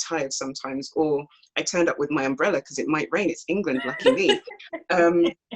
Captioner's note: laughs